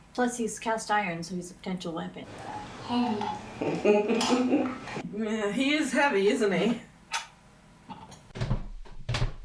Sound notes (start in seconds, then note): 3.6 Gert laughs